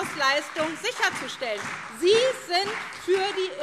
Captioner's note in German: Beifall SPD